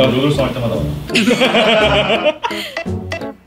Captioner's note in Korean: 웃음소리